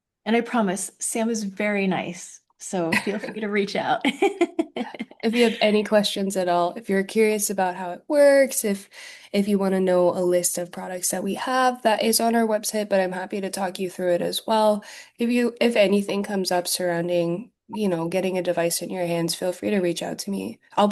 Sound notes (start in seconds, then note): 4.1 laughing